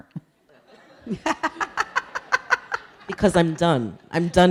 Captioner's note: audience laughing